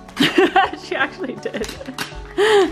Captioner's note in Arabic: يضحك